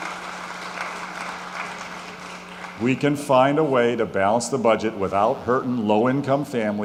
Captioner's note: applause